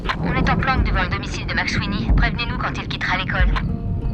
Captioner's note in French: à la radio